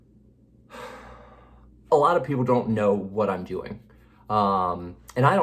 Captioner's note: sighs